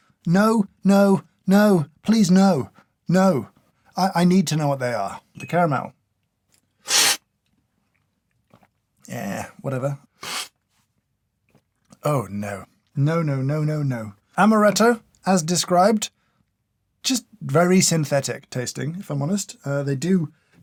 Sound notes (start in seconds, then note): 6.8 slurp; 10.2 slurp